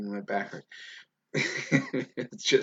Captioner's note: laughs loudly